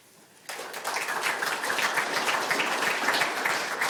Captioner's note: audience applauding